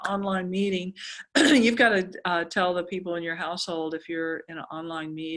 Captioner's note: cough